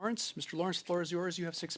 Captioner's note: speaking French